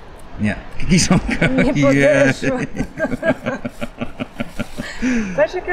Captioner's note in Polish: śmiech